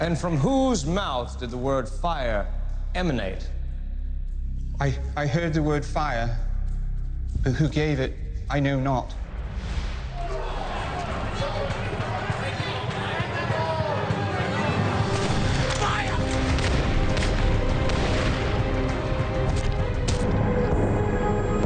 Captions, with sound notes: - And from whose mouth did the word "Fire" emanate? - I heard the word "Fire" but who gave it, I know not. (dramatic music) - Fire! (gunshots bang)